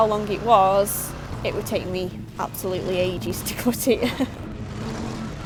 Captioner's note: laughs